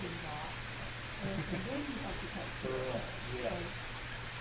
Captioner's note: laughter